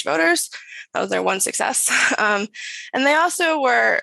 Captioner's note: chuckles